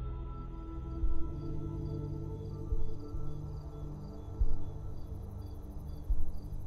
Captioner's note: gentle electronic music; crickets chirp